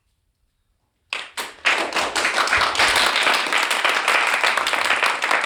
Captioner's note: class applauds